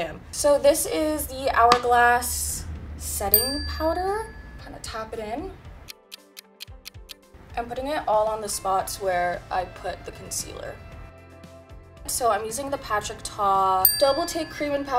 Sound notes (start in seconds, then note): 5.8 clock ticks